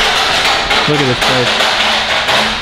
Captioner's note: metal banging